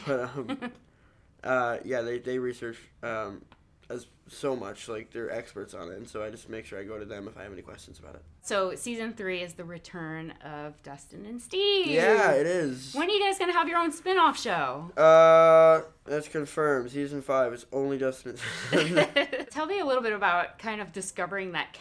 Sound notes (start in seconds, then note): 18.4 laughing